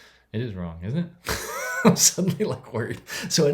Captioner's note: laughs